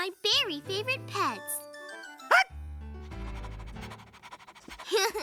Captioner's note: barks, Pants; laughs